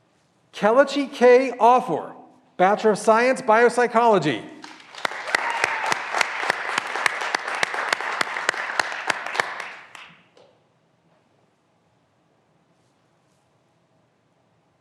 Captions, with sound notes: Kelechi K. Offor, Bachelor of Science, Biopsychology. (graduands cheering and applauding)